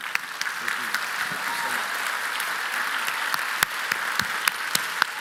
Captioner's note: speaking in Latin